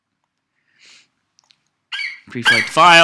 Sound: FlightCheck eagle screeches

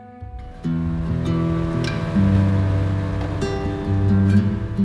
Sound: motor boat through water

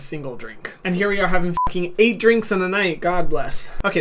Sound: beep

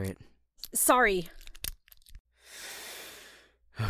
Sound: lock pick jingling; deep breath; lock clicking

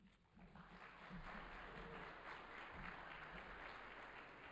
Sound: audience applauding

